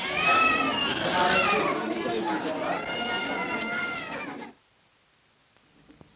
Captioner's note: children crying; crowded clinic chatter